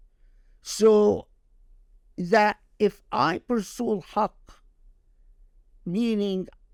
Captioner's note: speaking Arabic